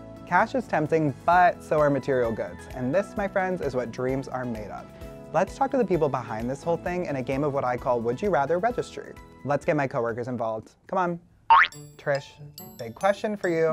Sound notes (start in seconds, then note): 11.5 loud boink